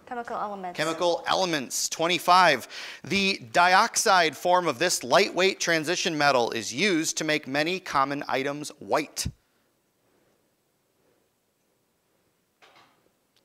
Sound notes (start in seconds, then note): none